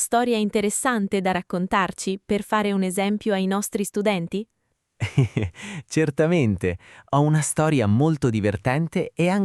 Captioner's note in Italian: risate